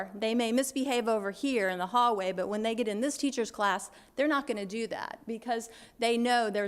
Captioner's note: none